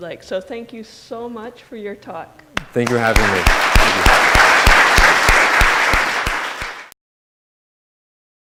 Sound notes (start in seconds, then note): 2.6 audience applauding